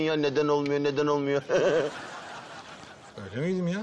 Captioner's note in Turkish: Gülme sesi